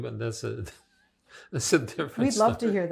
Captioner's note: laughing